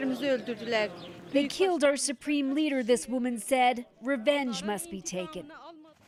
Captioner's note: speaking alternate language